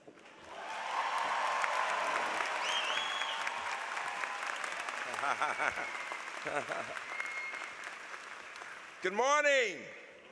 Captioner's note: applause